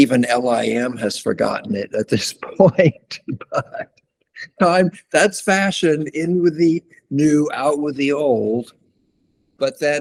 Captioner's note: laughs